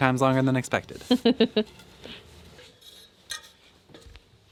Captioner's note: laughing